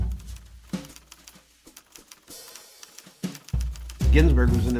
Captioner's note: typewriter clicking